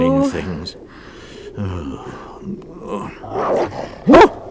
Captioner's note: sighs...then growling outside